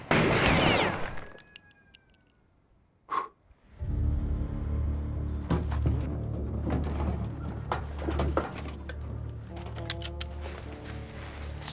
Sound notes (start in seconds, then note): 0.0 gun fire; 2.9 blows